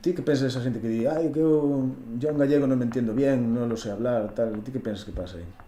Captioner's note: speaking in Spanish